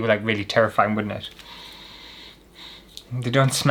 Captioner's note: inhales